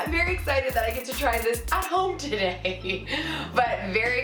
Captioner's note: laughs